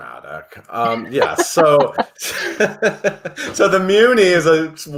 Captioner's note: laughs